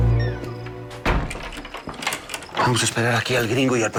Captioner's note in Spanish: Ruidos al poder cerrojo